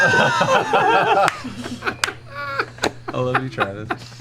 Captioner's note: laughter